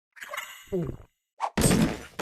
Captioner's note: gulp